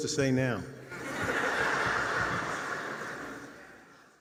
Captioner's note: attendees laugh